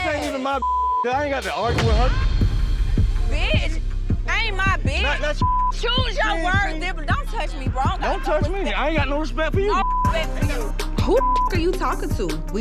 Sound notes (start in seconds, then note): 1.7 dramatic clunk; 2.0 dramatic thumping music; 10.5 tense hip-hop music